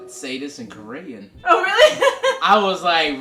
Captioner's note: laughs